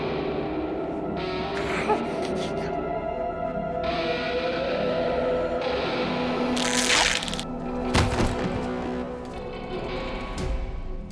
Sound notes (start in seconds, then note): 0.3 suspenseful music; 6.5 zapping; 7.9 thud